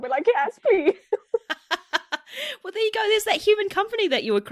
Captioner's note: laughs